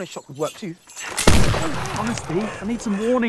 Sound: gunshot

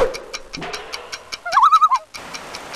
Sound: loon call

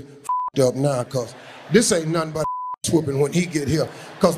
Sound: beep; beep

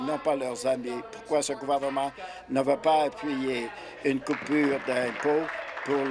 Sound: applause

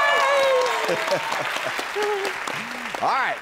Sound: cheering; audience cheering; Pat laughs

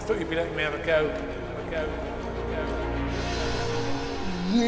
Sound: echoing

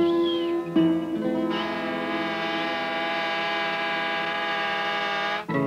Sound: Barge horn sounds on Mississippi River

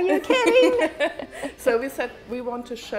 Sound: laughs

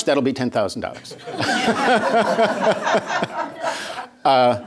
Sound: laughter

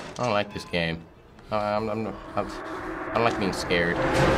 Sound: stammering; tense music

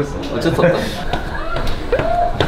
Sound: clomp, clomp

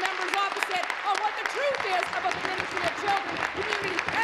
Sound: applause

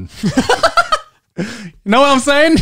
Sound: chuckling

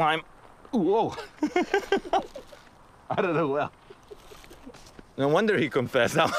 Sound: laughs; laughs

